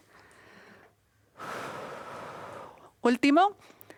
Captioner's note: exhalando